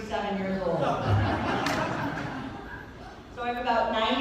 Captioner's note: laughter